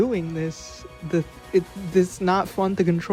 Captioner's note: stuttering